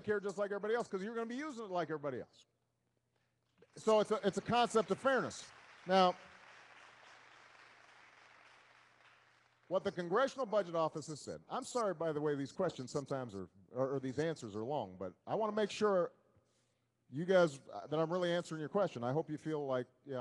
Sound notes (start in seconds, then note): 3.7 applause